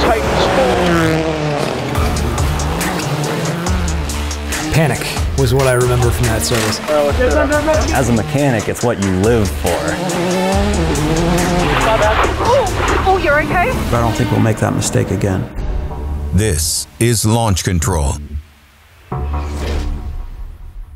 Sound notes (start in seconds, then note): 0.2 car engine revving; 10.1 car engine revving